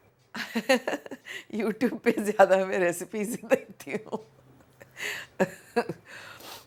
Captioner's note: chuckles; chuckles